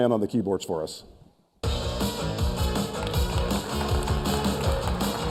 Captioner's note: applause